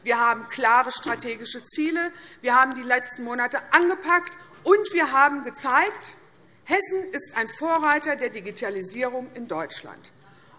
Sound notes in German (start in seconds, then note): none